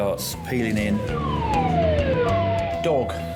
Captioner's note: siren blaring